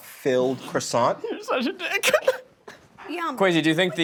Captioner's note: laughs